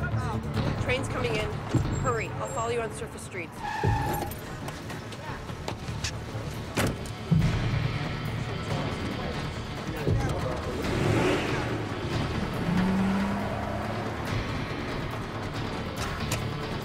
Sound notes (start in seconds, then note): 3.5 tyres skid